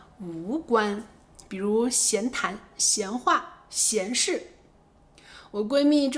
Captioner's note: casual chatting